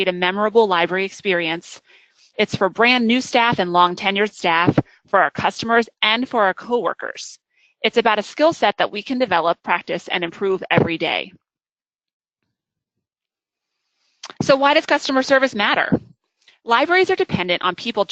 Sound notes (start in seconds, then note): 11.6 silence